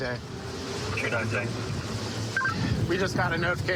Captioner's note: radio communication